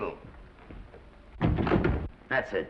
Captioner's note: doors latching